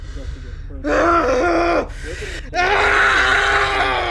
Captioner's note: yelling